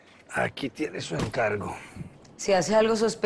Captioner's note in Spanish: none